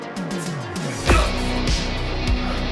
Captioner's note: pulse blast